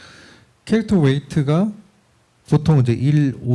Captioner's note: speaking korean